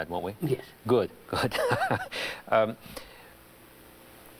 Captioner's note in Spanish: Risas